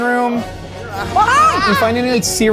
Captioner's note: screams